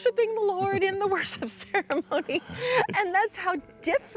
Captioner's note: chuckling